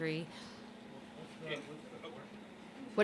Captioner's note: speaking off microphone